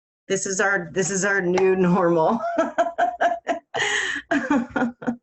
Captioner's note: laughing